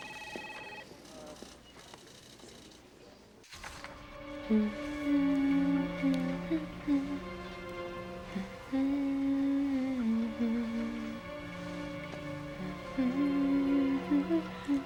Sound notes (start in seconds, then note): 0.0 phone ringing; 4.0 soft dramatic music; 7.1 humming; 11.6 soft dramatic music